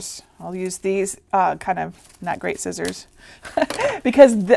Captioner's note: chuckling